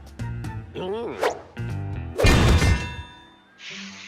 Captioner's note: crashing noise